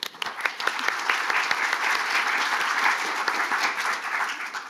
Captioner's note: audience applauding